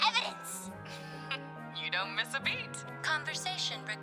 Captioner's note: chuckle